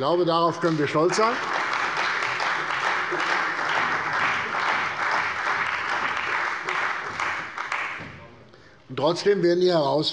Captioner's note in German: Beifall bei der CDU und dem BÜNDNIS 90/DIE GRÜNEN